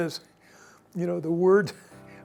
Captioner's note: chuckles